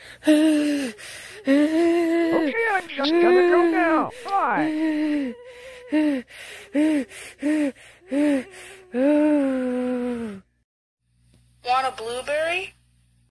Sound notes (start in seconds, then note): 0.2 Chapstick and Spray Bottle shivering; 5.7 Spray Bottle panting and then sighs